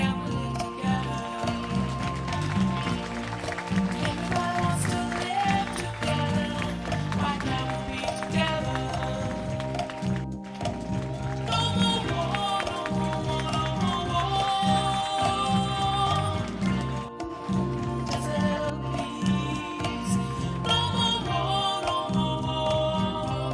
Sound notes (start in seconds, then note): 1.8 applause